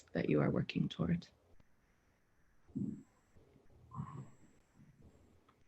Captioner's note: a pause